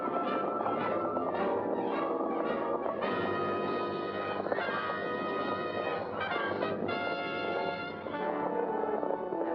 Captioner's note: dramatic music; hooves pounding; dramatic music